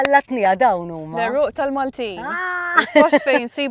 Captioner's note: exclaiming